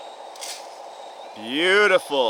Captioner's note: rocks landing